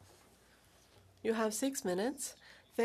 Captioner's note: speaking French